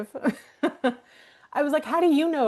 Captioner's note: laughing